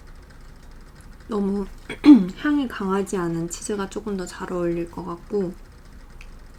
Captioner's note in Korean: 목을 가다듬음